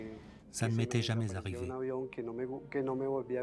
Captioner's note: speaks Spanish